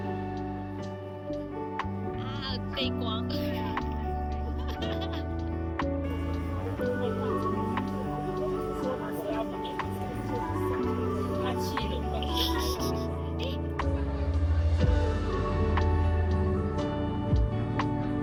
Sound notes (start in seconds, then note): 7.6 laugh